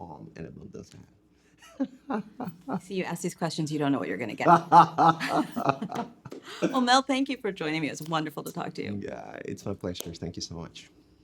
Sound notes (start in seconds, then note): 1.6 chuckling; 4.4 laughing